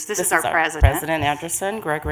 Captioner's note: multiple voices